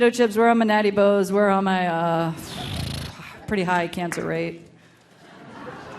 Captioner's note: grunts; audience laughing